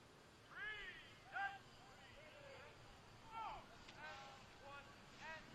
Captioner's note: military commands off mic